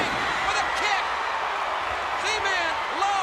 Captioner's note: crowd cheering